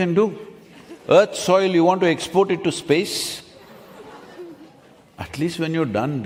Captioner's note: few laugh